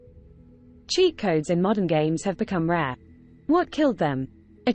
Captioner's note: british female voice